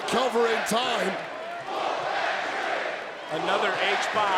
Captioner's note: crowd chants "Whoop that Trick"